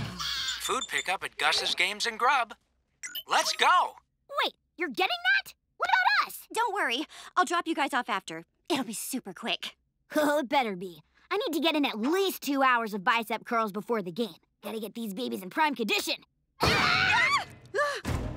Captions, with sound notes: Pick up at Gus' Games and Grub. Let's go. Wait, you're getting that? What about us? Don't worry, I'll drop you guys off after. It'll be super quick. Oh, it'd better be. I need to get in at least two hours of bicep curls before the game. Gotta get these babies in prime condition. [screaming]